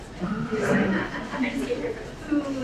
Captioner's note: laughing